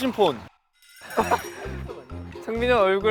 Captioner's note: laughing